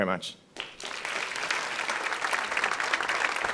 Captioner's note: applause